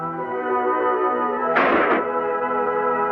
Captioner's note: gun fires